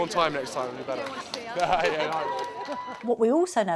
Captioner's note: laughs